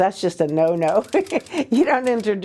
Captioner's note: chuckles